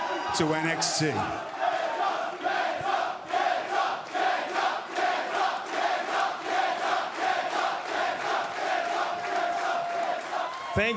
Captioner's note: fans chanting